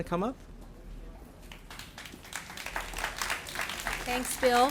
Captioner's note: applauding